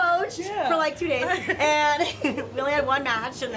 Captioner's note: laughter